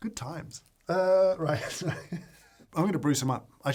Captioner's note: laughs